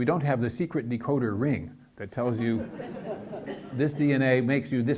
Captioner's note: audience laughs